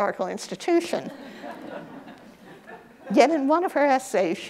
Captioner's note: audience laughs